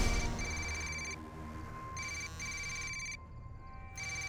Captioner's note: telephone rings; cellphone buzzes